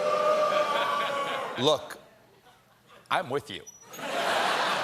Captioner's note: audience booing